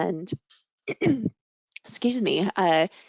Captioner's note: clearing throat